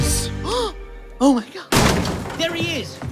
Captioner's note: gasp